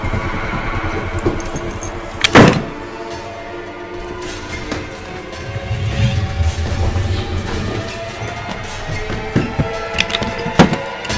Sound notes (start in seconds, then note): 2.2 door slamming; 5.4 dramatic music